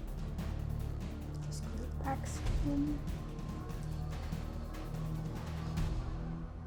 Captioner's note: none